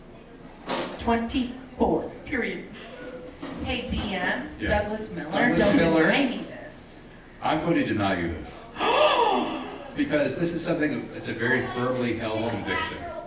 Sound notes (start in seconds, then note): 8.7 gasping